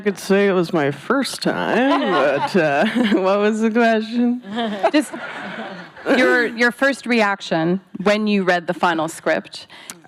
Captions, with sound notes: Wish I could say it was my first time, but uh, what was the question? [laughing] Your -- your first reaction when you read the final script?